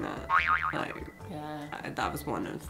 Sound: metal twanging

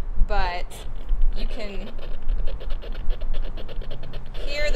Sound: scratching sound emitted by bat detector of fingers rubbing together

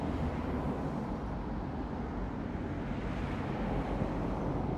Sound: traffic droning gently

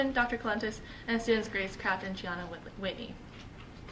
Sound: faintly speaking

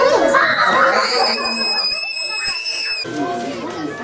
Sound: the kids are squeaking

